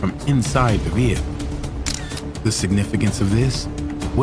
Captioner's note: camera clicking